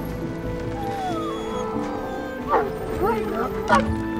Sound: dogs whimpering, barking

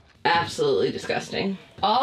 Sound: none

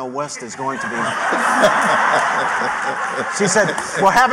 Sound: laughter

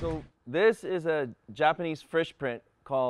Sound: boat engine idling

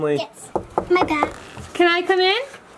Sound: door knocking

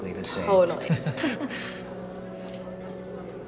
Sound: nervous chuckle

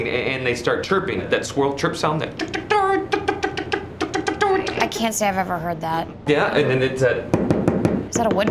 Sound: knocking sound

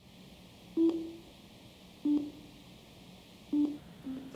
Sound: beeping

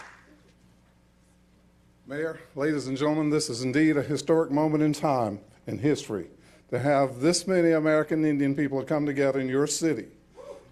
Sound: applause

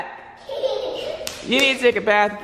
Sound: laughs; footsteps

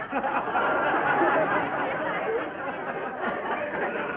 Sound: laughter

